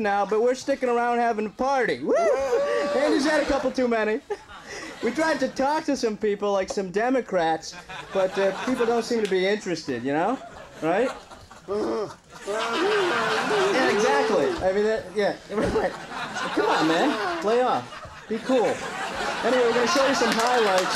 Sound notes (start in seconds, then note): 11.7 Andy grunting